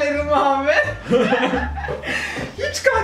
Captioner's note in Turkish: gülüyorlar